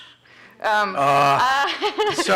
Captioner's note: laughs